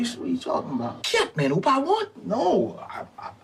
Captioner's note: character speaking in Creole